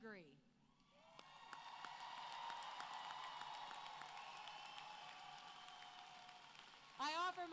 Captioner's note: applause